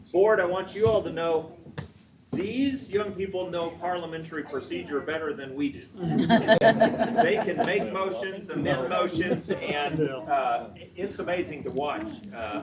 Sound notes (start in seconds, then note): 6.0 laughter